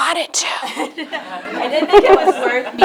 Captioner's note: laughs